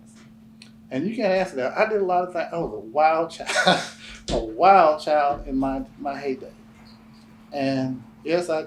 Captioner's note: laughs